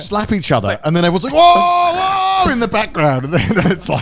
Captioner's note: yells